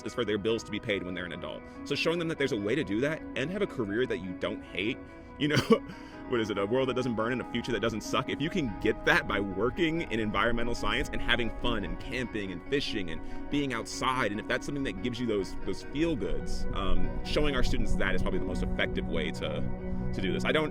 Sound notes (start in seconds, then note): 5.5 laughter